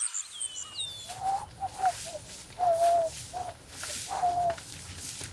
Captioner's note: Anderson whistling